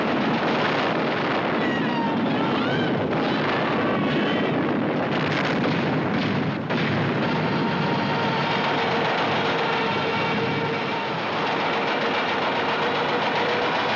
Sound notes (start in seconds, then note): 1.5 screaming